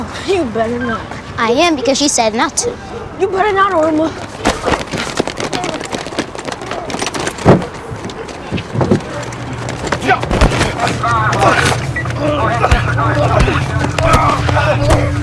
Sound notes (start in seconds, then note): none